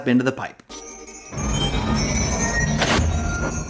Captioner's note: bright atmospheric music; chimes twinkling; hatch slams shut